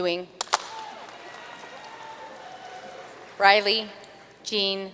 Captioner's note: audience cheering and applauding